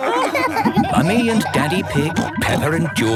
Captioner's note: all laughing